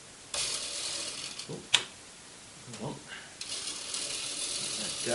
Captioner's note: clockwork motor stuttering and then starting